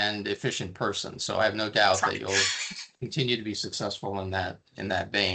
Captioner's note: chuckling